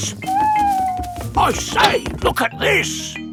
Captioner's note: owl hooting